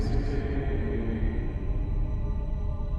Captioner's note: none